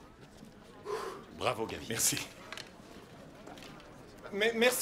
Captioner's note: indistinct conversation